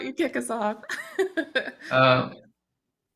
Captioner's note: chuckles